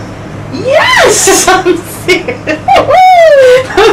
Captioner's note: laughing; laughing